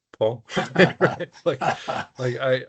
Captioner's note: laughing